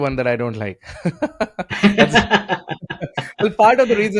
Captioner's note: both laughing